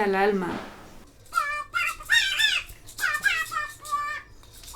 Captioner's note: high pitch comical voice